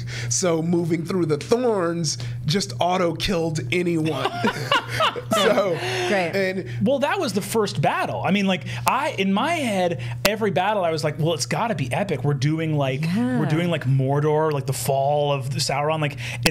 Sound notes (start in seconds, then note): 4.0 Brennan guffawing